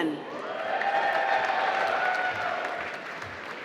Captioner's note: applause